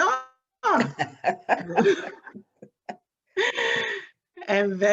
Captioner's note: both laughing